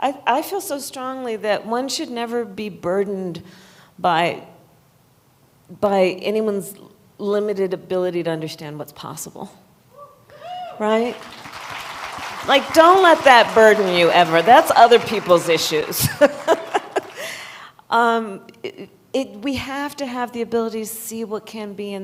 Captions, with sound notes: I feel so strongly that one should never be burdened by -- by anyone's limited ability to understand what's possible. Right? (Applause.) Like, don't let that burden you ever. That's other people's issues. (Laughs.) It -- we have to have the ability to see what can be